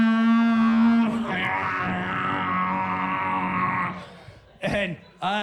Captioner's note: buzzing